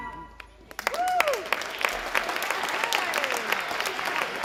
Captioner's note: audience applauding and cheering